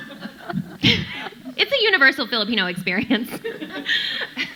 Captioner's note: chuckles; audience laughing